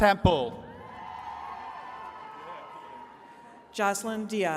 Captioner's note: attendees cheering